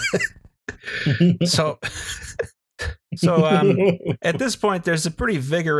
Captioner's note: laughter